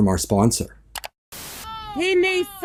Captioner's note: click